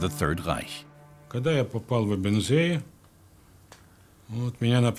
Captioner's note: Russian spoken audio